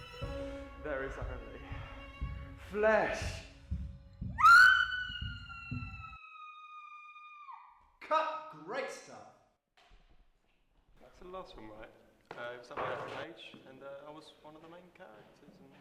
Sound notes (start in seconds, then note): 4.4 scream